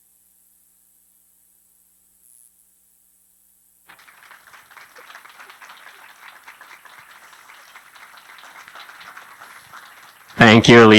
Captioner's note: applause